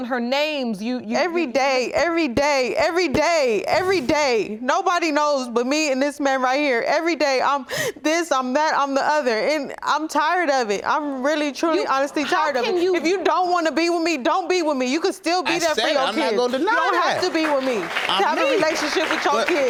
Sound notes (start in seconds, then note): 6.0 sobbing